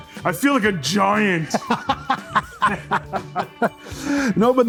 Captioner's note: chuckles